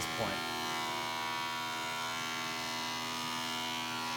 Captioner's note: machine whirring